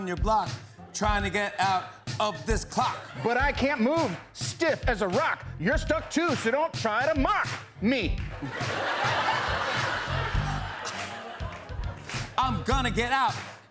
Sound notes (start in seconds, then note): 8.3 laughter